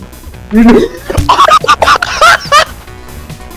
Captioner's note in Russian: умирает со смеху